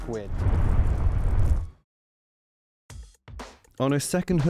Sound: roaring fire

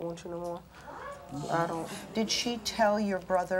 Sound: audience clamors

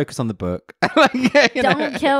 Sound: laughs loudly

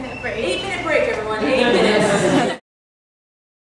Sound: laughter

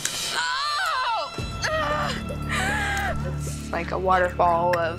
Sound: actress screams loudly

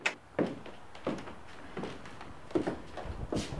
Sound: none

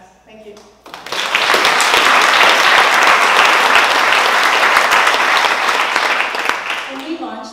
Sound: applause

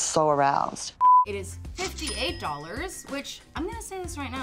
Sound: till rings

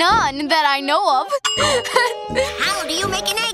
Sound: laughing

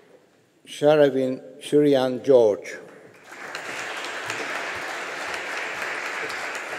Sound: audience applauding

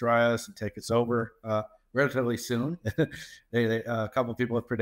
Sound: laughs

